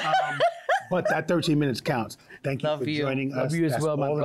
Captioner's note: laughter